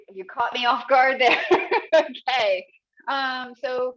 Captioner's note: chuckling